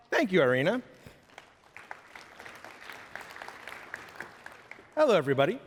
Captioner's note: applause